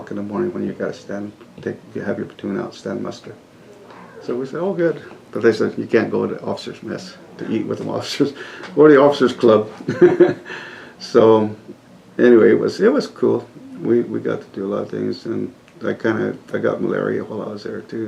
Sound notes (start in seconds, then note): 9.7 laughs